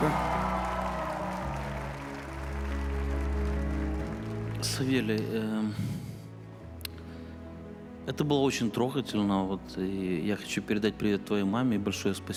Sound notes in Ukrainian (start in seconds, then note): 0.0 оплески